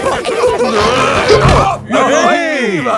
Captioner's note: all giggling; grunting